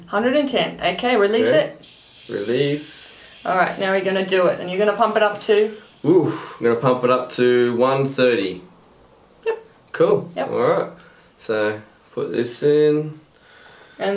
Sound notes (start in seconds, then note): 1.7 air releasing